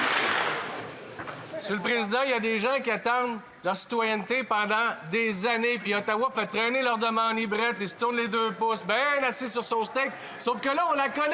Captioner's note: some Applause